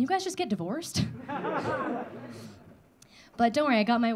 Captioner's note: audience laughing